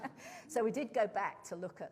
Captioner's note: laughter